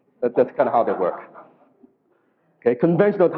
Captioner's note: audience laughs